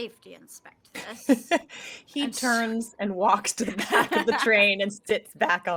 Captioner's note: laughing